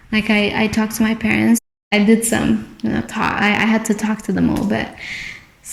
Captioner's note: talking